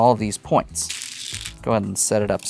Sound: stones rattling

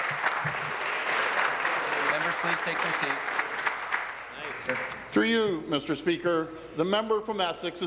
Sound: applause

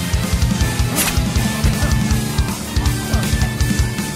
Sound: sword slashing

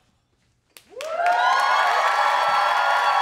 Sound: cheering

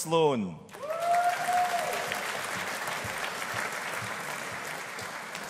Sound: audience applauding

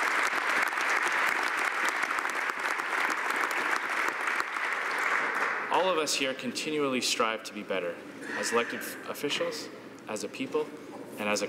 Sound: applause

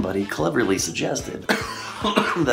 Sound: coughing

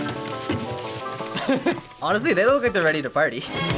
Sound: chuckles

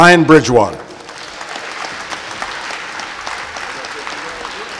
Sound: applause

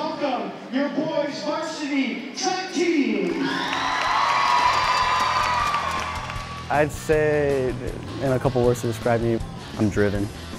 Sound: cheers

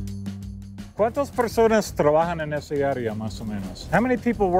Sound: speaking Spanish

